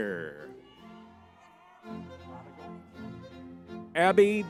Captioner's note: lively music; crowd cheering